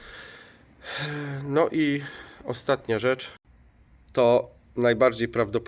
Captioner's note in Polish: wciągnięcie powietrza; westchnienie